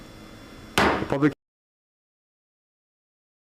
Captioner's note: gavel pounds